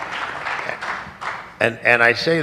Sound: applause

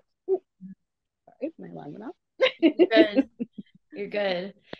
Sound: laughs

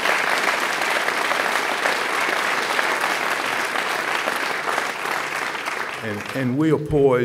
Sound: applause

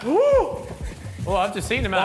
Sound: gasps

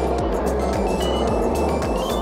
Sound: beeps

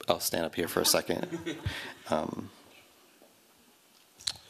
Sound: laughter

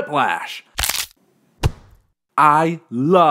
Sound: neck crack; body thud

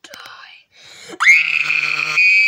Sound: screaming

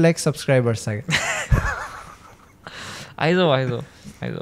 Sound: laughs

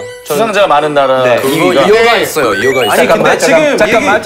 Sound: disbelieving

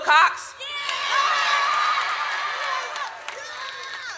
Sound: audience cheers

